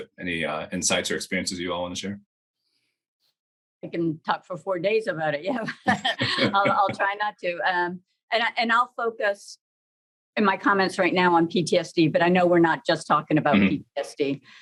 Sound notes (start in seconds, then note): 5.6 chuckles